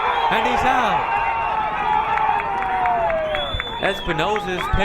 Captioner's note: crowd cheering